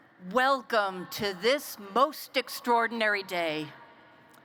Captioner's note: none